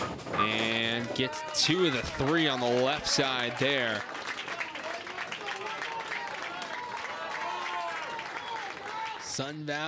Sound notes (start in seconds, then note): 3.6 crowd cheers and applauds